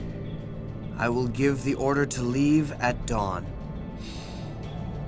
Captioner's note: gasps